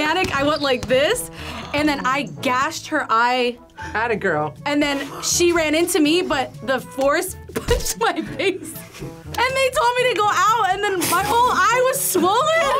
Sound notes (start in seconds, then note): 7.6 laughs